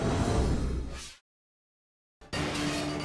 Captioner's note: volcano booming; video swooshing; dramatic music